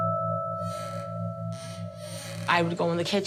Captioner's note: door creaking